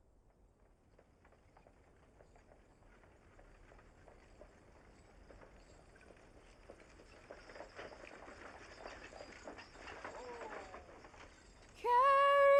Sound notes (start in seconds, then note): 4.0 horse and cart rattling